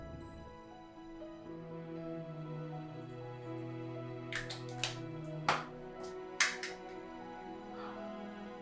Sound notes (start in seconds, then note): 3.0 gentle music continues; 3.0 plastic thudding